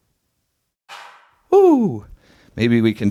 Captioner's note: reverberating clap